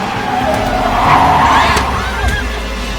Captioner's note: Alejandra screams